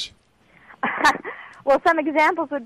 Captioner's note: laughing